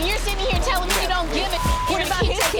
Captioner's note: beep